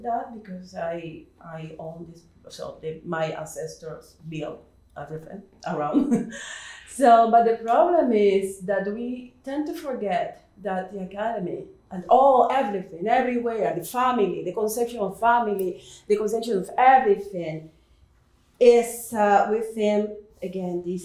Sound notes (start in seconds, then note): 5.9 chuckles